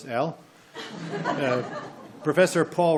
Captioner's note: audience laughs